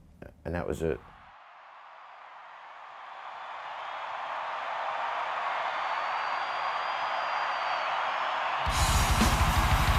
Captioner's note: cheering